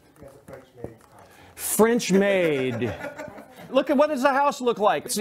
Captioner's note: laughter